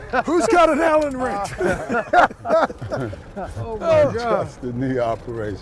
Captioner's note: laughter; laughter